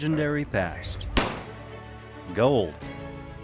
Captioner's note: gun fires